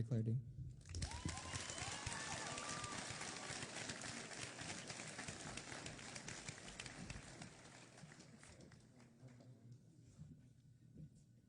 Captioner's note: applause